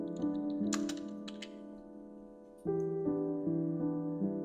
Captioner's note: keys striking